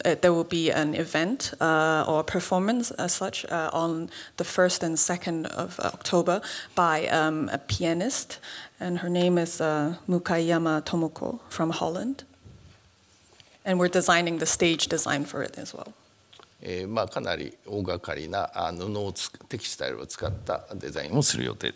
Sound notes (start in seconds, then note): 16.5 speaking japanese